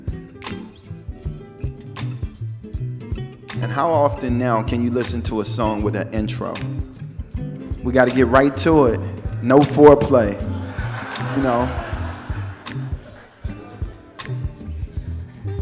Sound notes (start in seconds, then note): 0.3 groovy music; 8.8 audience laughs